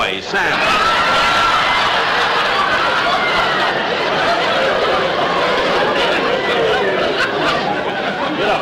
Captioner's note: audience Howling